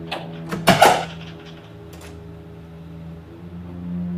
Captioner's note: door opening